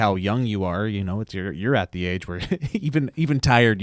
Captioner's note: chuckles